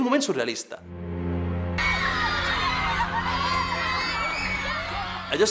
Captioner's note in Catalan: crits i xiscles